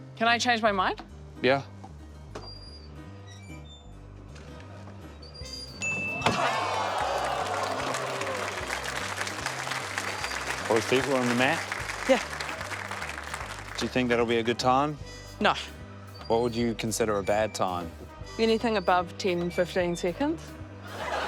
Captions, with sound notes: Can I change my mind? - Yeah. (DING!) (AUDIENCE EXCLAIMS) (APPLAUSE) Both feet were on the mat. - Yeah. - Do you think that'll be a good time? - No. - What would you consider a bad time? - Anything above 10, 15 seconds.